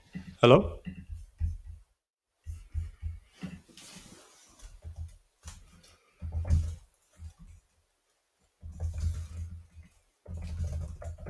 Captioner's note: silence